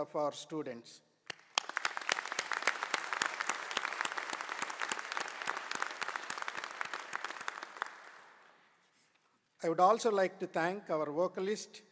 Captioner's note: applause